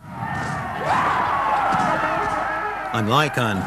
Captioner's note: guns bang; shouting